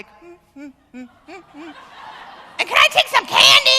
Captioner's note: humming; laughter